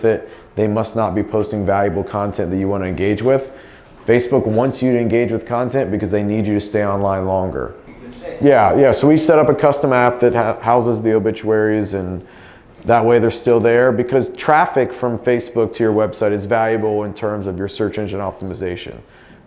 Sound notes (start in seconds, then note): 7.9 distant speaking